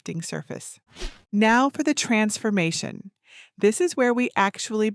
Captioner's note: screen wipe whooshing